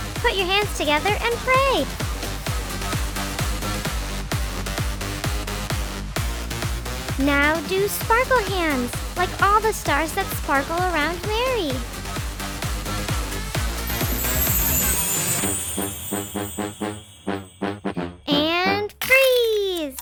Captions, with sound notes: Put your hands together and pray. Now, do sparkle hands like all the stars that sparkle around Mary. (chimes jingling) And freeze!